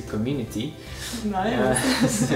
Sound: both laughs

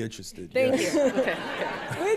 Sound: laughter

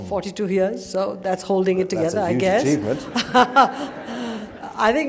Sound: laughter

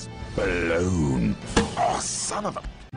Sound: conk!

